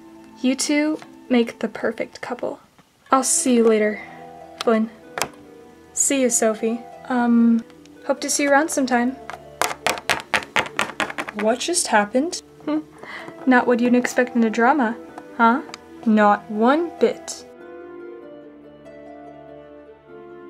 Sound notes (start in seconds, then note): 12.6 giggles